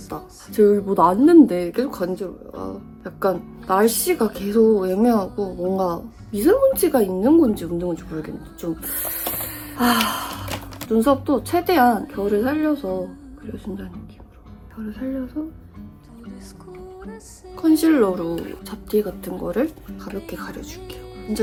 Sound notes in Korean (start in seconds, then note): 8.8 쓰으으으읍